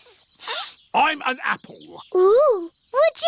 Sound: sniffs

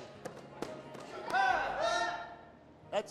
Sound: shouting

